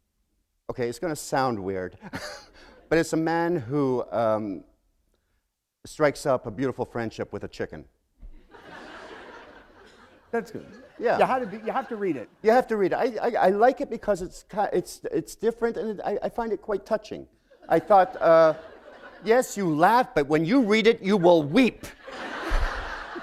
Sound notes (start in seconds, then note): 8.3 laughter; 17.2 chuckle; 21.1 laughter